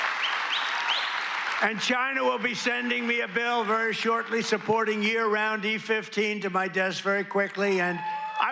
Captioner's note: cheers and applause